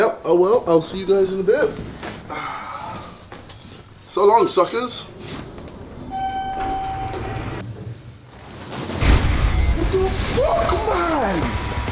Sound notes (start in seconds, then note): 2.0 sighs; 6.0 elevator ding; 9.1 intense heavy metal music